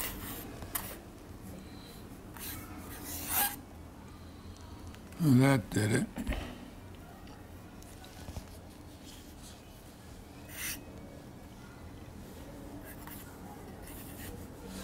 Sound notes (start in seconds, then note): 2.9 pencil squeaking